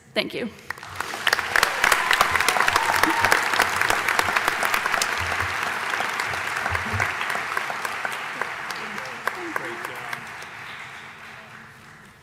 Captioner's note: applause